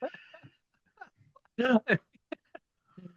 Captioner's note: laughter